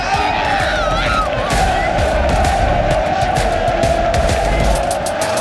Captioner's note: crowd cheering